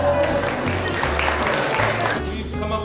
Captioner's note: applause; laughter